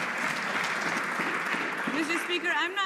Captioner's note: some Applause